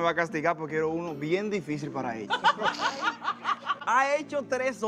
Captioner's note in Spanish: Risas